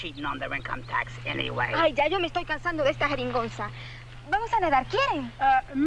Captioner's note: Mango speaking in Spanish